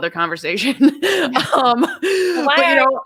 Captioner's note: both laugh